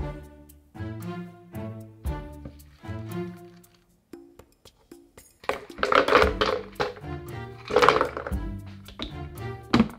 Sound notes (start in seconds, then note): 5.4 ice dropping